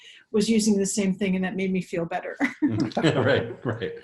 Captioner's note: laughs; chuckles